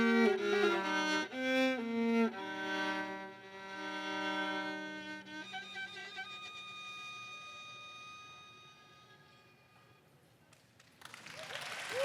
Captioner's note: applause